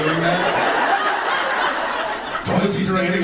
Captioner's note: audience laughs